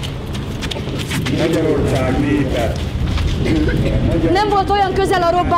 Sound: Imre Nagy speaks on the radio

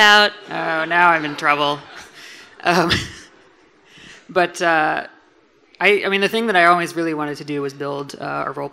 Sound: laughs

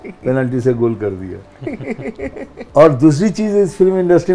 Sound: laughs

